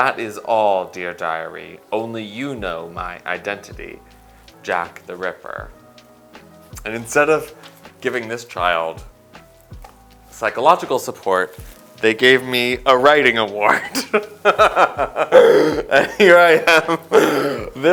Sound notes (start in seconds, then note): 13.7 laughs